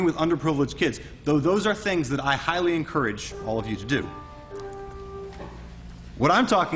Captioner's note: school bell